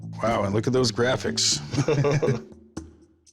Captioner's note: laughter